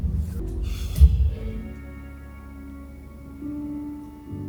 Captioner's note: taking a deep breath